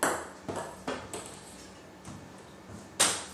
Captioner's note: ball ping pong hitting